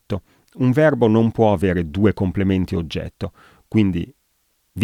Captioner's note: in Italian